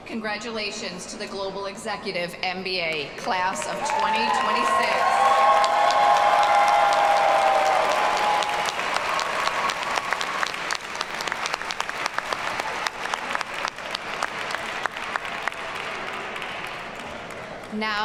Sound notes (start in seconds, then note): 5.7 audience cheers and applauds